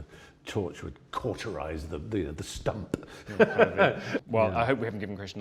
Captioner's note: laughs